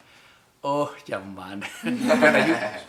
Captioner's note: laughs